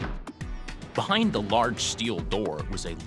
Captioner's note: voiceover